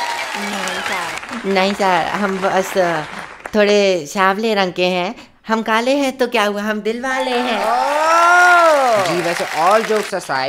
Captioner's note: everyone cheers